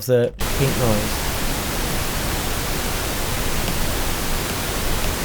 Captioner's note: pink noise crackling